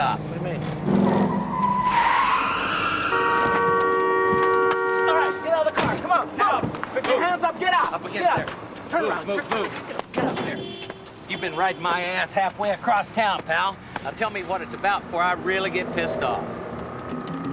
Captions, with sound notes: Hang on. Quick stop. What do you mean? (tires screeching) (horn blares) All right, get out of the car! Come on! Put your hands up! Get out! Come on, move! Up against there! Turn around! Get up there! Move! Move! Move! You've been riding my ass halfway across town, pal. Now, tell me what it's about before I really get pissed off.